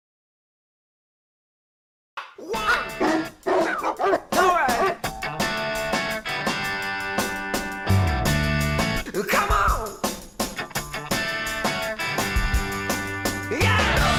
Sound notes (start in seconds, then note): 2.5 dog barking; 5.8 upbeat rock music; 7.2 bright music